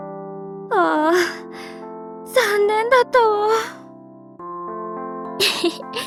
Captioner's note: sigh